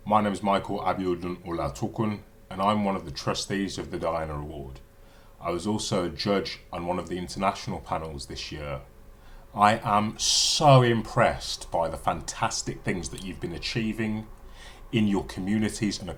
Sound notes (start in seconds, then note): none